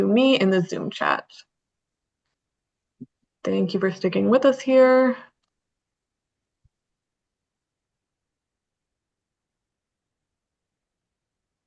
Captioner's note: pause